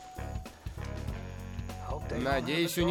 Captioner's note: rustling; breathing heavily